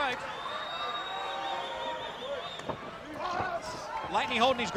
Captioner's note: crowd cheering